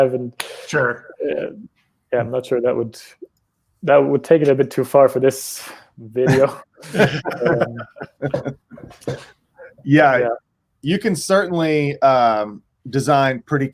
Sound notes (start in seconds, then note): 6.2 both chuckle